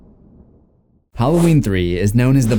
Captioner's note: thunder